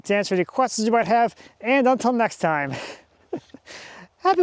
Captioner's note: chuckles